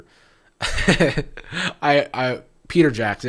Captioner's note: laughs